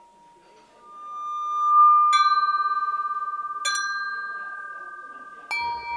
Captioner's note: different tones ringing